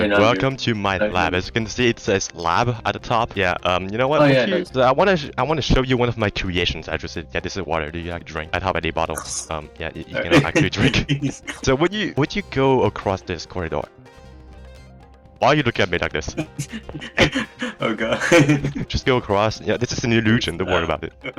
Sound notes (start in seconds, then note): 10.1 laugh